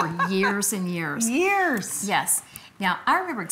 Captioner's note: laughing